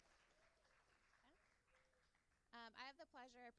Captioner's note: applauding